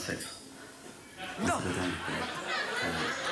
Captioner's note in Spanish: risas